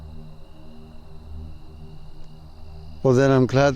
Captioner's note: bug noise